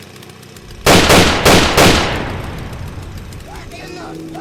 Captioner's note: bang bang, bang bang!